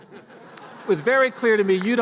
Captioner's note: laughter